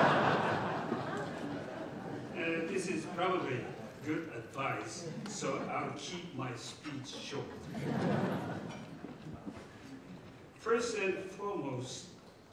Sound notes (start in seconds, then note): 7.2 laughter